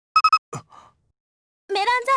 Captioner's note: gasp